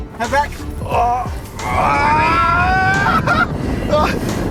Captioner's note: screams